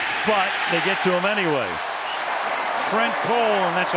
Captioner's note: crowd cheering